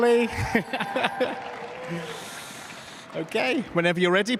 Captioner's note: applause